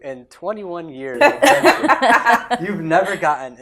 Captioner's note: laughter